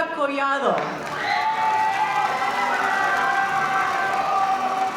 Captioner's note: audience cheering